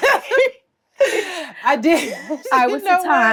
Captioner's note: Treasure laughs